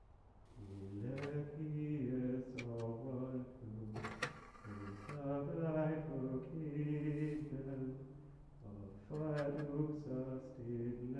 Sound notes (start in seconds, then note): 0.6 DVD Player opens